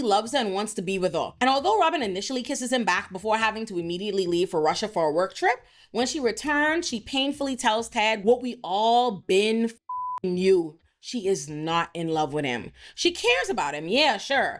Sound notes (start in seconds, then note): 9.8 beep